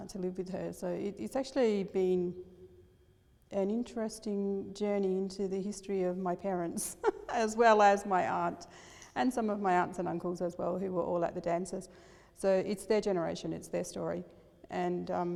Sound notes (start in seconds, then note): 6.8 laughs